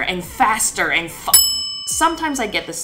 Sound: clock dinging

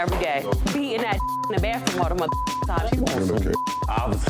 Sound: beep

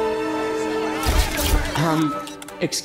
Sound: cameras Flash

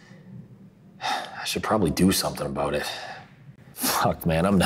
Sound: sighs

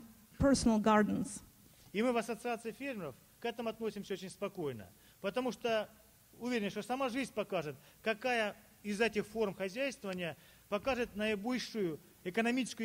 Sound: speaking Russian

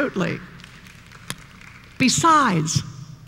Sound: applause

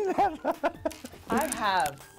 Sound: laughs

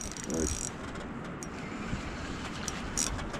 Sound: reel creaking

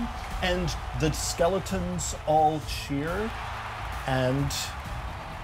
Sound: audience cheers

